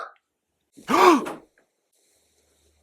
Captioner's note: gasp